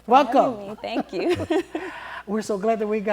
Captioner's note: laughter